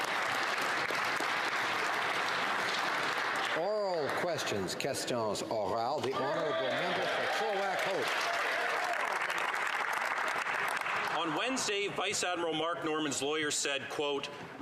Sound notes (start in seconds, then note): 0.0 some Applause; 7.3 speaking French